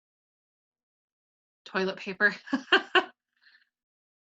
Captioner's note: laughs